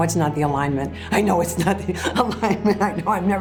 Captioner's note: laughing